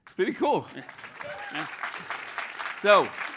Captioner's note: applause